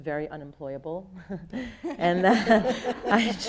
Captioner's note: audience laughing